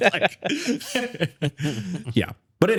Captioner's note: laughing